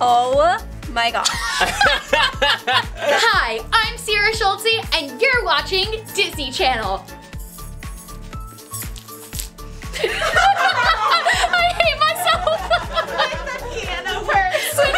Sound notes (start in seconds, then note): 1.3 laughing; 7.2 bangles chiming; 9.9 laughing